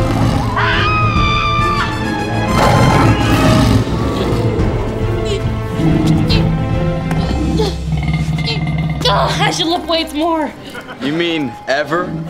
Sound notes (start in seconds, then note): 0.4 screaming; 2.5 roaring